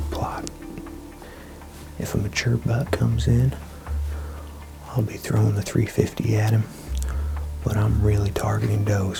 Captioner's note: whispering